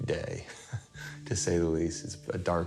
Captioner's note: Risos